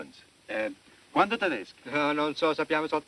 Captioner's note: speaking italian